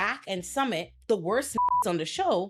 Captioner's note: beep